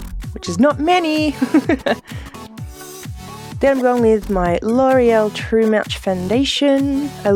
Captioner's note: laughs